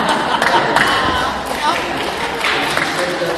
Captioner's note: laugh and claps